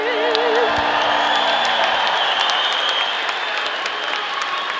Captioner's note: audience applauding